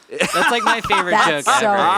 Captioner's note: laughs